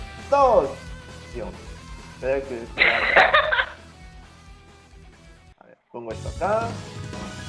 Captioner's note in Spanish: Risas